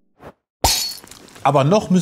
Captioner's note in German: Klirr